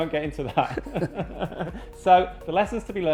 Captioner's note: both laughing